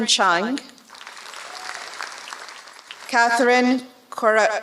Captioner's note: applause